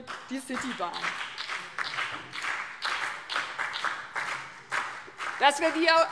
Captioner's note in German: Beifall BÜNDNIS 90/DIE GRÜNEN, DIE LINKE und vereinzelt CDU